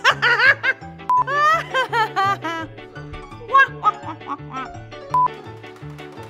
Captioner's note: laughing